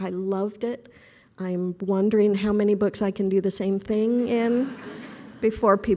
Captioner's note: laughing